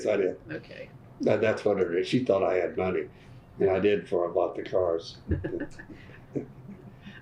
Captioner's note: laughter